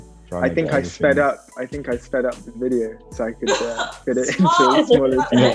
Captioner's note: laughs; laughing; laughs